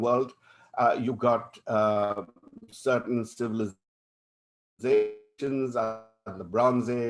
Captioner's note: audio distortion